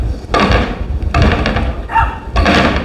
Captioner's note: knocking